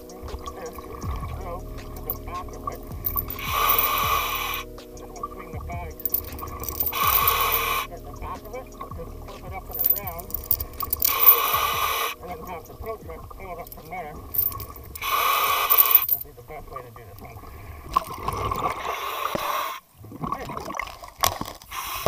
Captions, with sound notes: I'm gonna hook this rope to the back of it, (breathing) and then we'll swing the bags (breathing) at the back of it and flip it up and around. (chains rattling) (breathing) And then have the tow truck pull it up from there. (breathing) (chains rattling) That'll be the best way to do this one. (water bubbling) (breathing) Okay.